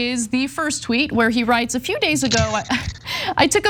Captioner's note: laugh